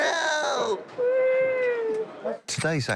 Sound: man whooping

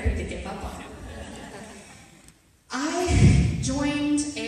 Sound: audience laughter

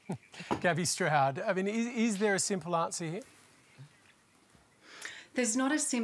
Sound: chuckles

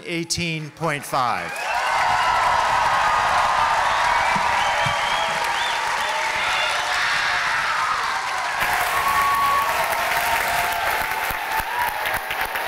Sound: cheering

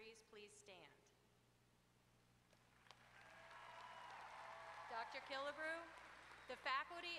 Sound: applause

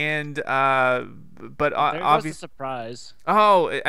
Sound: voiceover

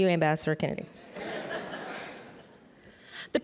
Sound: laughter

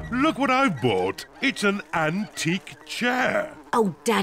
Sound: oinks; flies buzzing

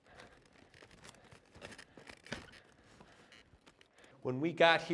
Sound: breathing heavily

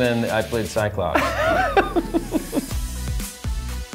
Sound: laughs

